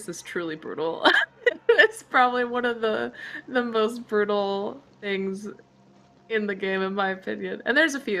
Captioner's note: laughs